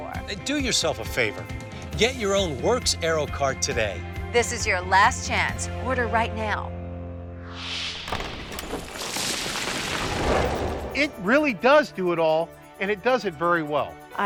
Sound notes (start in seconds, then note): 7.4 wind whooshes; 8.0 rocks clatter